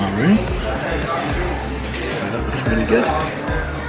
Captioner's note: walkers chattering